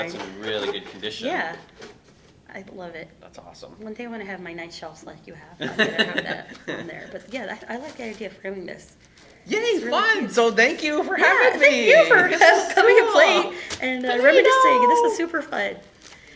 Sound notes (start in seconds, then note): 5.6 laughing